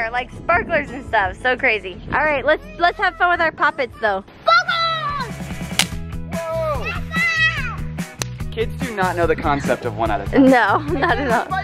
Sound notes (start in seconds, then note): 4.4 kids yelling; 5.4 firecrackers pop